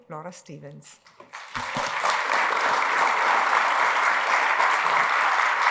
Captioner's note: applause